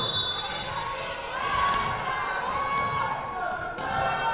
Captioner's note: whistle blowing